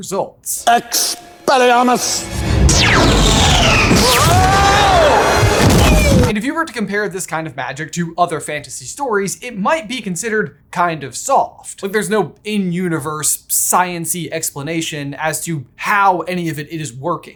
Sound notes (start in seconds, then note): 2.9 screams